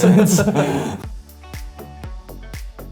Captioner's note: laughter; mellow electronic music